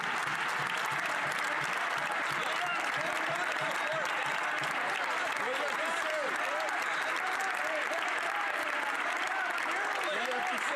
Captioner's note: some Applause